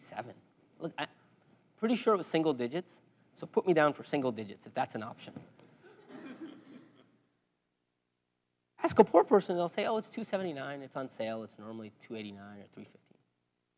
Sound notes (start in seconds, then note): 5.8 laugh